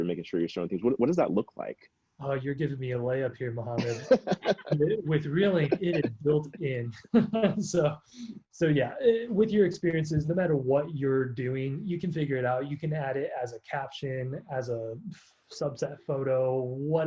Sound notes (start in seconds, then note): 3.5 laughs